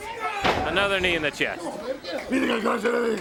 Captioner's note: crowd chatter